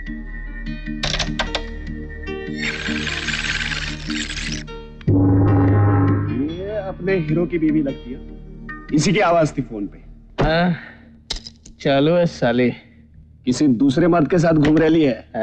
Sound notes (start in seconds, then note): 1.0 answering machine rewinding; 10.3 sighs